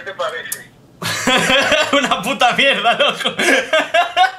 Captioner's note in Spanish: Risas